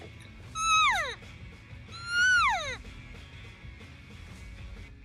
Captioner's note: elk call